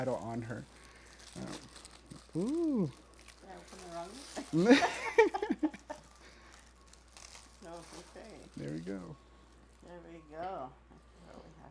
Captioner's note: laughter